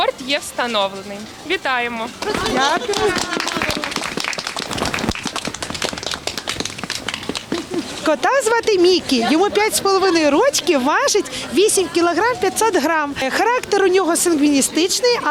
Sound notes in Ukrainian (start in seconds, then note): 2.6 Оплески